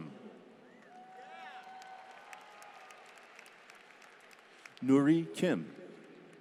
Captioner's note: applause